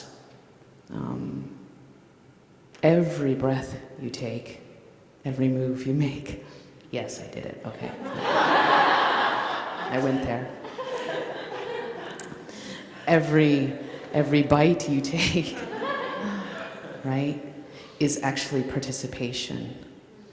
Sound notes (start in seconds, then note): 8.0 laughter